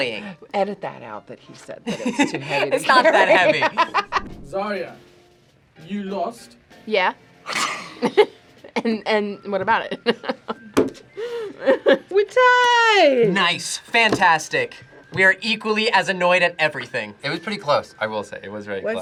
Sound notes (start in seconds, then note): 1.8 laughs; 7.5 laughs; 11.3 laughs